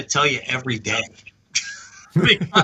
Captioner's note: laughing